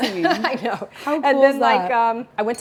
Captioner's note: chuckles